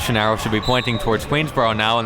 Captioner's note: whistle blows